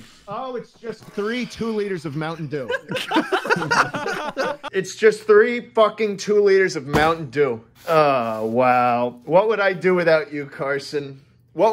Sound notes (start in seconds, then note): 2.6 laughter